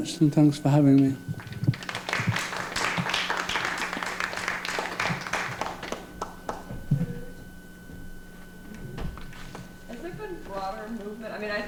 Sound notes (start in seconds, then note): 1.4 applause